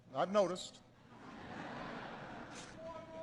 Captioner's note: laughter